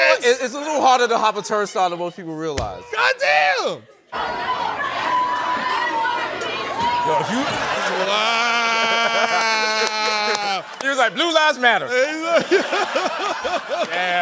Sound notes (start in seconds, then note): 4.1 protesters chanting; 7.2 laughter; 12.0 laughter